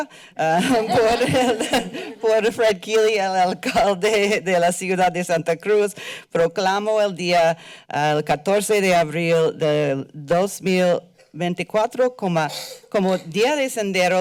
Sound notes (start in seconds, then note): 0.0 foreign language; 0.6 chuckles; 1.9 foreign language; 13.3 foreign language